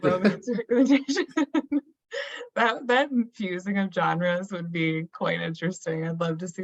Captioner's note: laughs